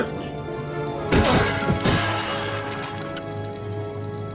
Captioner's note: kitchenware clanking; cook groans; moves to solemn music